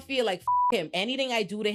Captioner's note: beep